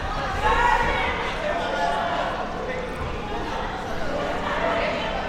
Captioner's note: spectators shouting encouragements